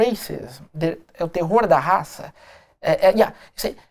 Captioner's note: speaking portuguese